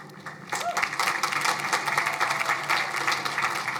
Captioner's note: crowd applauding